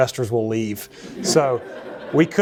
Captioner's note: laughter